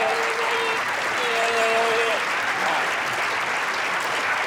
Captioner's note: applause